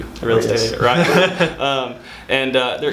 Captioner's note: laughing